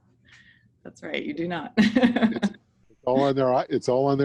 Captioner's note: laughs